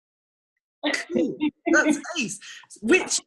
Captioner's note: laughs